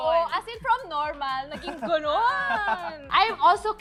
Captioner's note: laughs